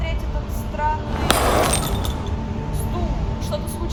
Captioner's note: sound of broken glass